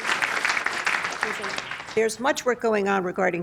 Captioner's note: applause